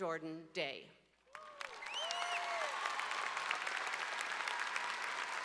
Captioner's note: audience applause